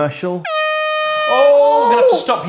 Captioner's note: airhorn